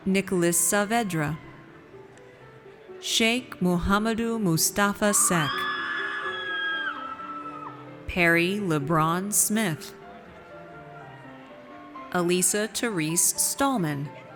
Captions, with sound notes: Nicholas Saavedra. Cheikh Mouhammadou Moustapha Seck. (audience cheers) Perry Lebron Smith. Alesa Terese Stallman.